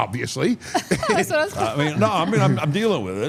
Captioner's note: laughs